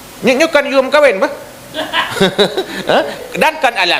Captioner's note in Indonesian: tertawa